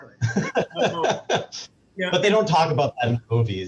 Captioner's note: laughing